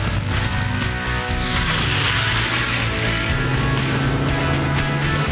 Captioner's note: airplane engine revving